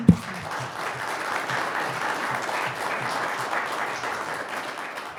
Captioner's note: audience applauds